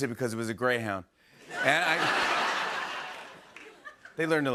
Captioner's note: laughter